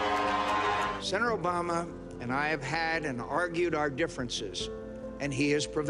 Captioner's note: applause